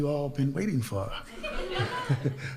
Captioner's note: audience laughs